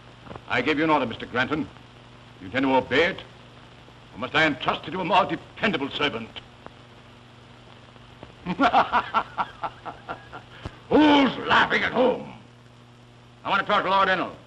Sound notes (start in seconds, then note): 6.8 laughing